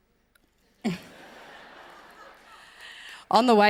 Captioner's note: audience laughs